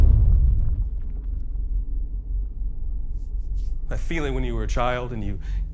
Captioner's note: thud